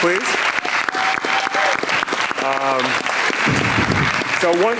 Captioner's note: audience clapping